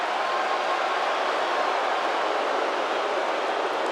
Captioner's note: audience jeers